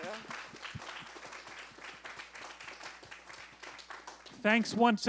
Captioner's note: applause